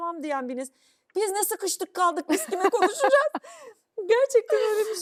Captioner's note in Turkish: kahkaha